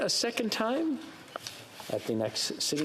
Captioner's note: speaking French